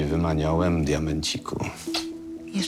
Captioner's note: smack